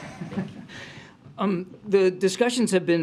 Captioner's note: laughs